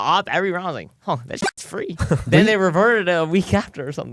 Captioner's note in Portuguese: risos